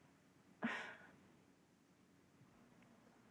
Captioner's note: sighs